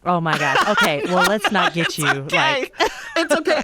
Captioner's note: laughter